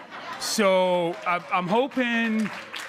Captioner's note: crowd laughing and cheering